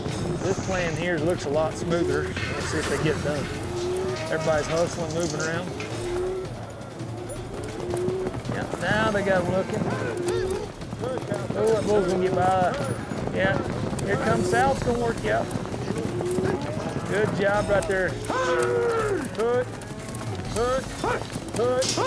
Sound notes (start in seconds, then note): 6.1 cows mooing; 10.1 hoofbeats, cows mooing